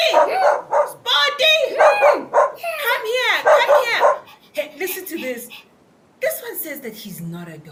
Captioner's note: barks